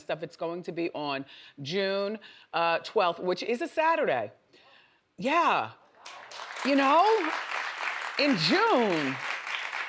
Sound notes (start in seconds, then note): 6.0 audience applauds